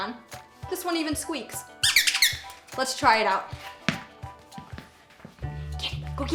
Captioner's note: squeaky squeaky!